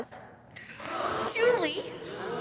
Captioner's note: group gasping